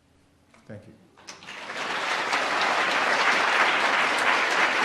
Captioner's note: audience applauds